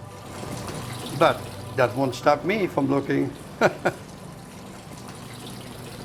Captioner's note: chuckles